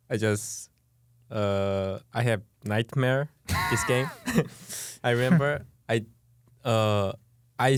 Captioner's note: laughs